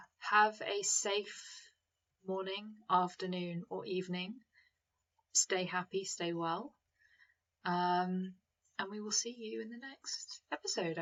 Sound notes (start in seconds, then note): none